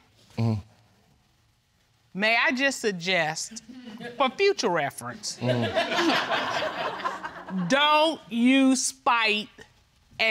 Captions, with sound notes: Mmm. May I just suggest, for future reference... (AUDIENCE LAUGHING) Don't use spite